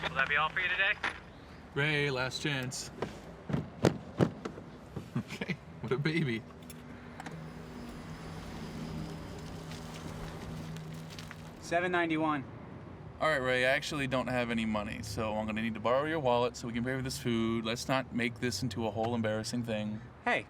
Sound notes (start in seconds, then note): 3.3 foot thudding